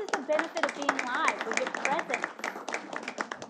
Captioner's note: applause